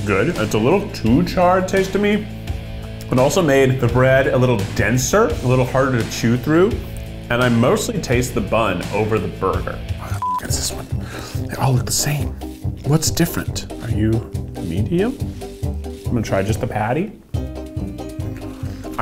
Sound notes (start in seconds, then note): 10.2 beeps; 12.3 adventurous music